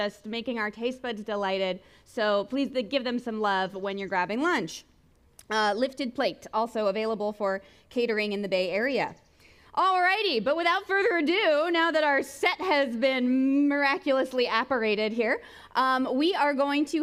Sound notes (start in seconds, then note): none